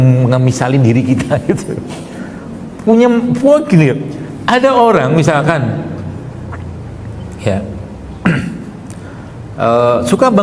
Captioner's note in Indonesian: berdehem